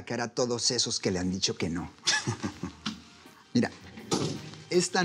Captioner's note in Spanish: Risas